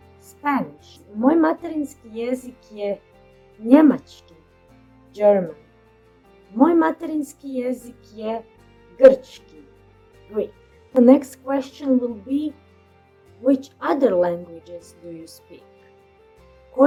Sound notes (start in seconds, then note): 0.2 Spanish; 5.4 German